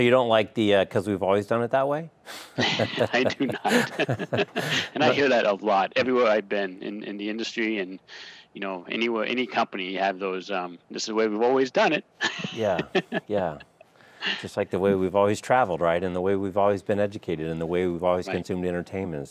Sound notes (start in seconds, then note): 2.5 both laughing